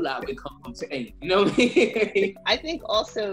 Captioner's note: laughs